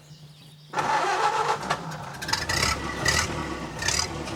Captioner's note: car engine revving